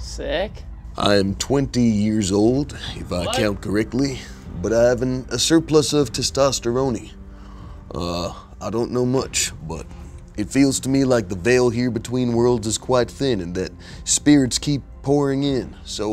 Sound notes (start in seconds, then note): none